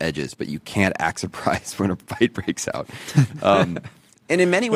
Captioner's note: laughs